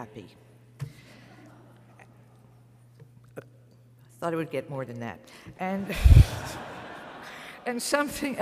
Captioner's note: laughter; laughter